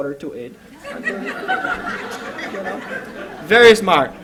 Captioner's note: laughter